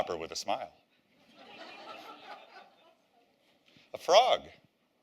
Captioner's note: laughter